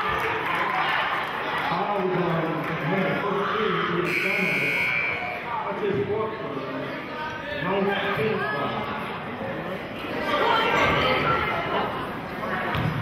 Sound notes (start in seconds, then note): 4.1 buzzer sounding; 10.7 yelling